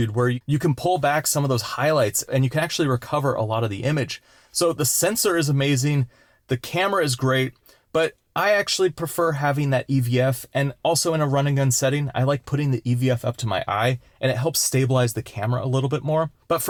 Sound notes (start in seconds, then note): none